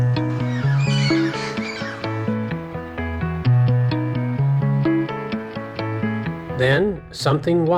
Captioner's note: parrot Sounds